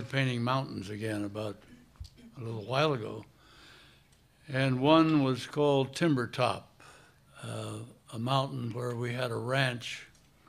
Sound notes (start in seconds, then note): none